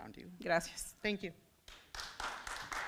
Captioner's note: foreign language; audience clapping